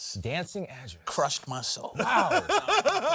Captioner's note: laughs